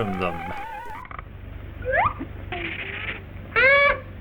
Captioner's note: slide whistle